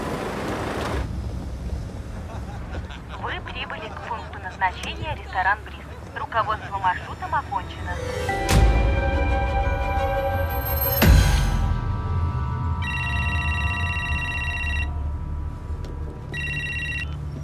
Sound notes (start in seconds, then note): 1.1 car sounds; 10.7 musical sting; 16.2 phone ringing